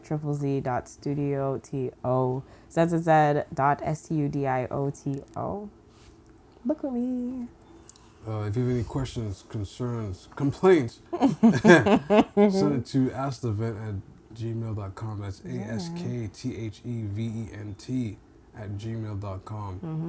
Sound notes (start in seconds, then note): 11.1 laughing